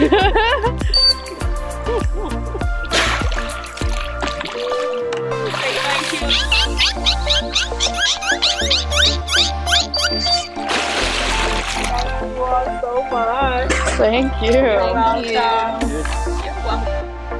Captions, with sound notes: (*giggles*) Say thank you! (*Dolphin squeaks!*) Thank you all so much! Thank you! You're welcome. You're welcome!